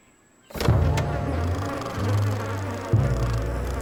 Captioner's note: flies buzzing